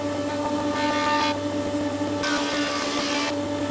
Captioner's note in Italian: suono pialla